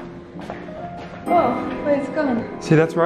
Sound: ominous chime

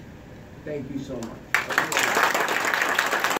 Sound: audience claps

